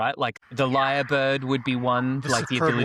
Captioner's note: lyrebird sounds